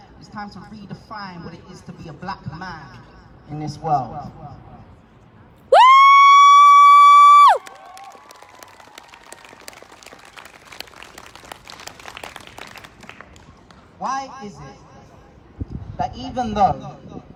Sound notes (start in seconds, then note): 5.7 whooping; 9.9 applause